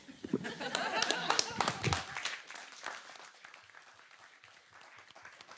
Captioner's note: applause